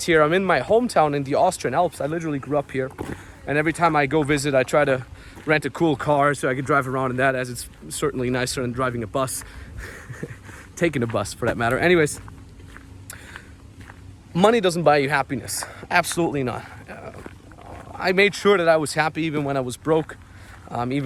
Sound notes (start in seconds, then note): 9.7 laughs; 11.0 footsteps stomping